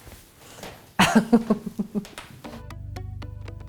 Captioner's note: laughs